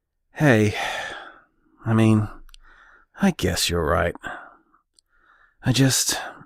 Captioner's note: sighs